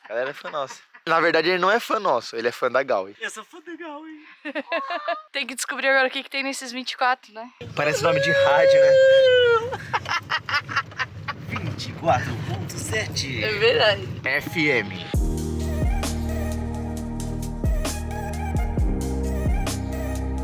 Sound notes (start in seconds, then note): 9.4 laughter